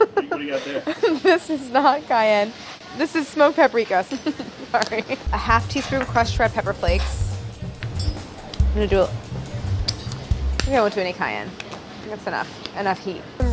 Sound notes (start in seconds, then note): 4.1 giggles